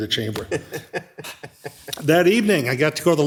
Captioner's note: chuckles